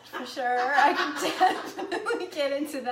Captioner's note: laughing